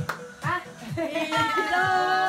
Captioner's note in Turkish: Bağırış